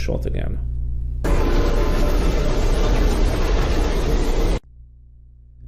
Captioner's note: ship engine revving